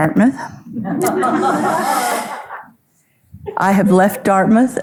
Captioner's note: audience laughing